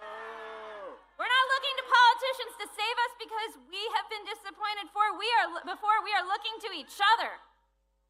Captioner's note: booing